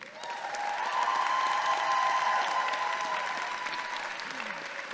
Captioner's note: audience clapping and cheering